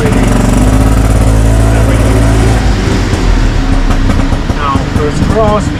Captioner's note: engine sound